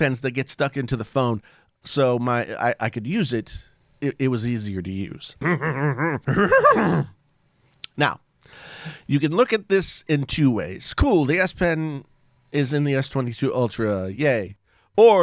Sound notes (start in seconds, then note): 5.4 chuckles